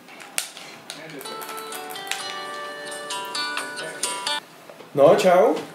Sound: phone rings

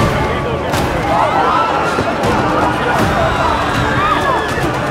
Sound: crowd screams

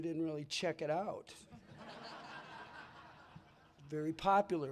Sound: laughter

